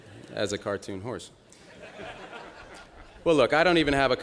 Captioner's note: laughter